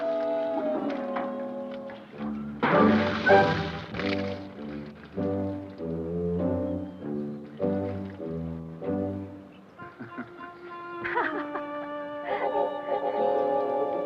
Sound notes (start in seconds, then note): 9.7 Pilar laughs; 9.8 Don chuckles